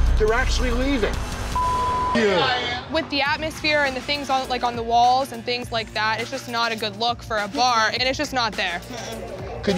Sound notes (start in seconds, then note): 1.5 beep